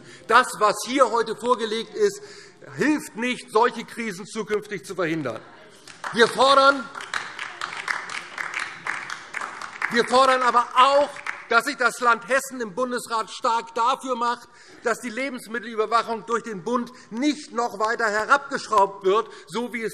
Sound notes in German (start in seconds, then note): 5.8 Beifall DIE LINKE